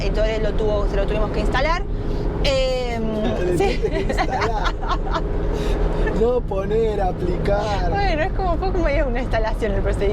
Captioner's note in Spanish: risas